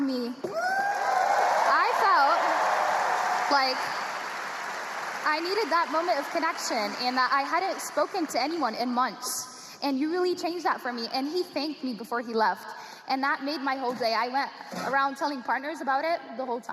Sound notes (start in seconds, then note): 7.9 cheers and applause